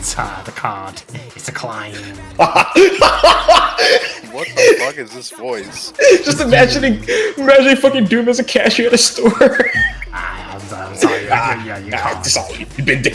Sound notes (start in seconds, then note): 2.3 starts laughing hysterically; 9.7 wheezes